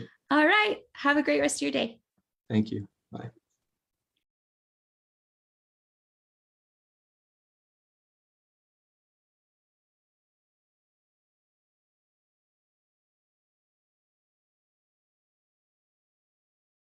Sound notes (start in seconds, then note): 5.4 silence, video lags